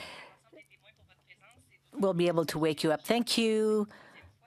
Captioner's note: speaking French